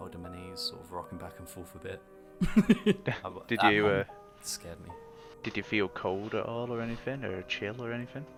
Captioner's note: laughter